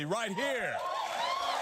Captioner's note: cheering